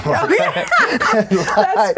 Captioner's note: both laughs